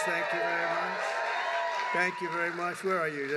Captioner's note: applause